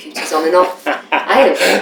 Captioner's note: laughter